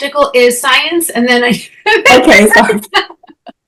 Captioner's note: laughing